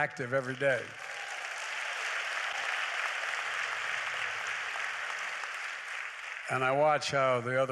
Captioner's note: applause